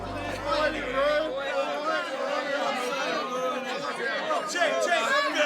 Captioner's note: raucous chat and laughter